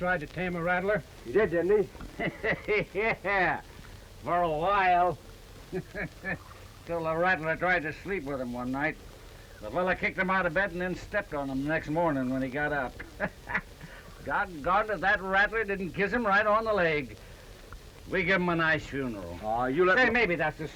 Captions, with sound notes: I'll tame him. I knew a fellow once that tried to tame a rattler. He did, didn't he? (LAUGHING) Yeah. For a while-- [chuckle] till the rattler tried to sleep with him one night. The fella kicked him out of bed and then stepped him the next morning when he got up. Doggone if that rattler didn't kiss him right on the leg.